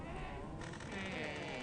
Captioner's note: door creaking